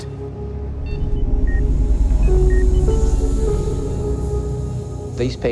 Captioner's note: machine beeps